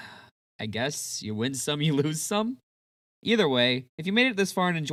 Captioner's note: sigh-chuckle